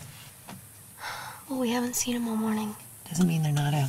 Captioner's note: Sighs